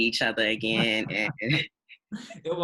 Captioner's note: laughing